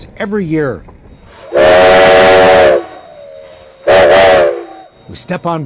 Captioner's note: train whistle blowing